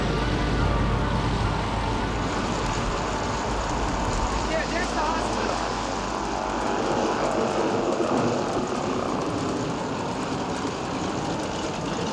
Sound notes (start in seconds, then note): 6.2 engine roaring; 6.2 wind howling